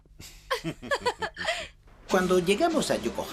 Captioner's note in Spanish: ríen